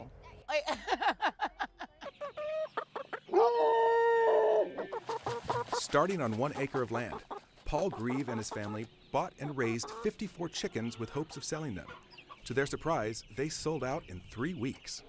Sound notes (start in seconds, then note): 0.6 laughs; 2.2 chickens clucking, dog howling